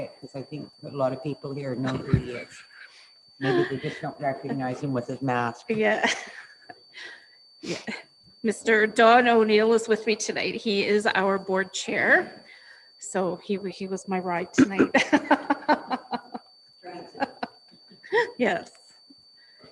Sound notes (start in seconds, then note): 14.6 laughs